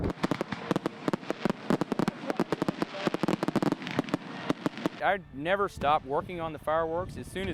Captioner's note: fireworks popping